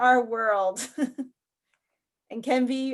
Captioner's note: chuckles